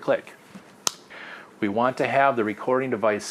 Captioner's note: snaps loudly